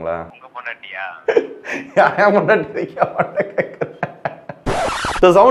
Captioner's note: laughing